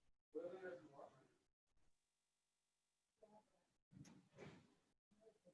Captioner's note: background chatter